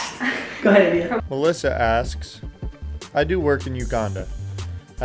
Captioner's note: voiceover